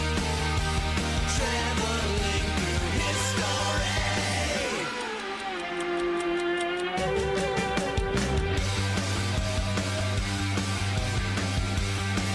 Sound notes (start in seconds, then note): 3.3 clock ticking; 8.1 rock music